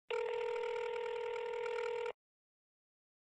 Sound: sonnerie de téléphone

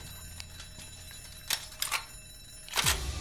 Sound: cocks gun

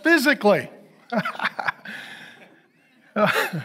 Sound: laughs

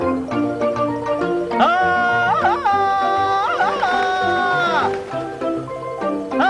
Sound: Tarzan yells

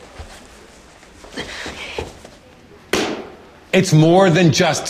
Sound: whispered

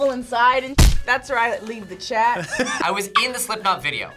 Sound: laughs

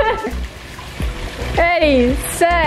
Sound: water splashing

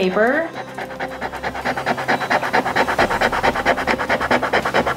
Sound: eraser rubbing

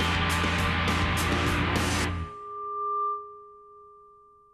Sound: feedback; music stopping

